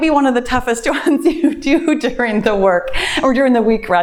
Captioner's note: laughs